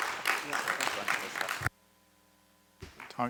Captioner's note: applause